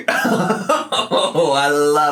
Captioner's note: laughing